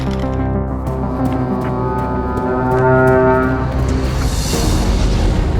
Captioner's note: wings flutter; footsteps thud; conch wails; exciting music